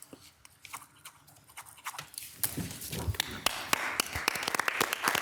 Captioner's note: pen scribbling; city council applauding